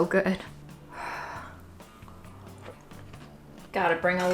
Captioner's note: sighs